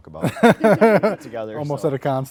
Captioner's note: laughing